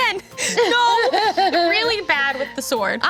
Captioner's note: laughing